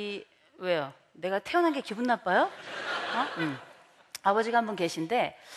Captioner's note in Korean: 웃음